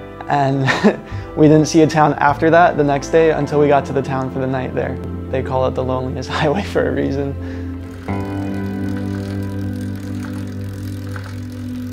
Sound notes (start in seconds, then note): 7.8 bicycle chain clunking